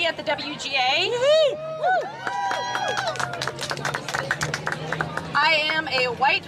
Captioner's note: cheering and applause